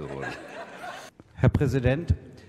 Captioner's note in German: Gelächter